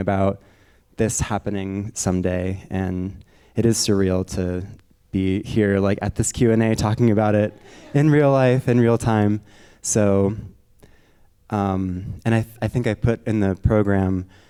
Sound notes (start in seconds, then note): 7.1 audience members laughing